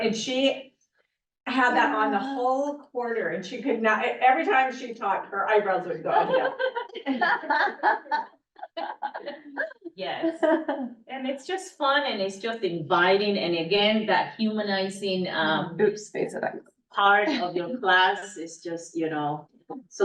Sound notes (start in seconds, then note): 6.1 laughter